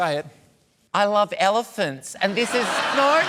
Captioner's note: laughter